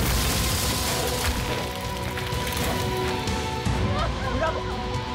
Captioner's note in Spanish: estruendo